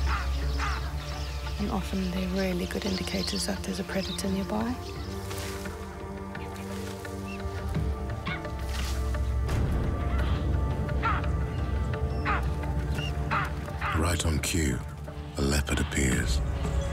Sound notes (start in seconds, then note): 0.2 birds squawk; 5.4 intense music; 7.5 monkey chatters; 9.8 birds squawk